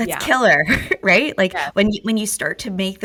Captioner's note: laughs